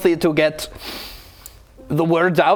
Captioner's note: sniff